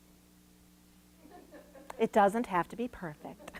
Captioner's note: woman laughing